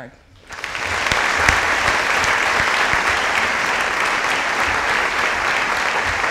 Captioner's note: audience applauding